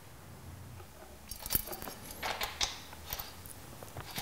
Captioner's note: light rattling, then scraping clicking